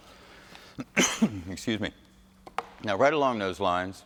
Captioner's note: coughs